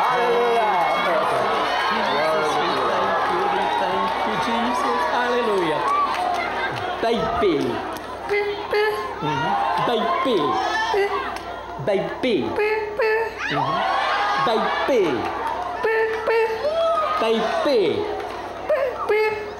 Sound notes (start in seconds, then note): 9.3 applause and cheering; 13.4 boisterous applause and cheering